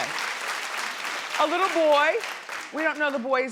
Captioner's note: crowd claps